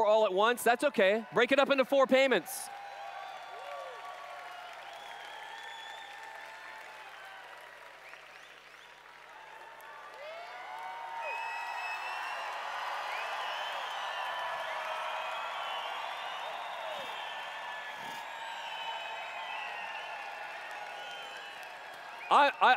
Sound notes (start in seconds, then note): 3.9 applause/Cheers